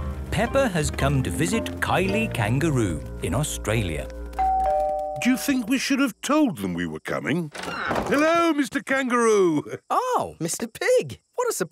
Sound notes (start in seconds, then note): 4.4 doorbell rings